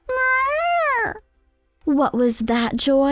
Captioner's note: meowing